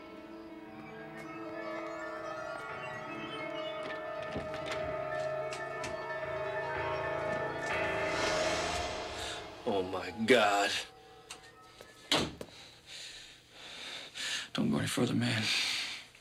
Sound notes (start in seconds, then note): 8.7 gasps; 12.4 breathing heavily